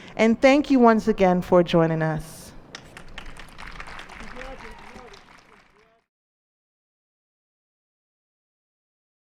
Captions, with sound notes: And thank you once again for joining us. [ applause ]